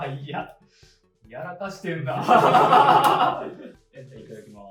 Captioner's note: laughs